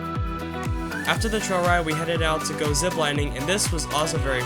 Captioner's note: voiceover